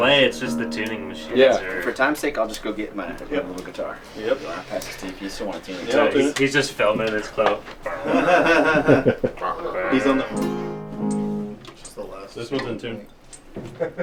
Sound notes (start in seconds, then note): 7.8 laughter; 7.9 tuning noise